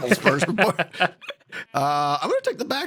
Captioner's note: laughs